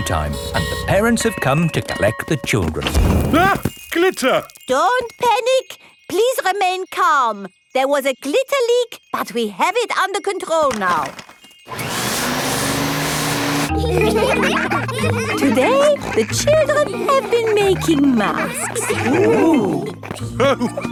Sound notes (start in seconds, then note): 11.6 whirring; 13.7 all laughing; 20.7 laughs